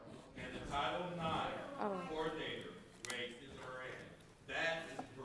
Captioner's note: speaking faintly off mic